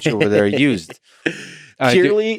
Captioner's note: Tim laughs